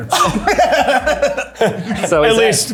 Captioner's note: laughing